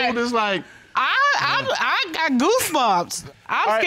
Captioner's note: stammers